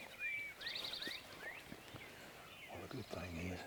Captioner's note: many bird tweets